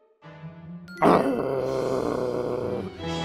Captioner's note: growling